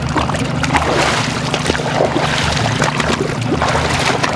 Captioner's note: water splashing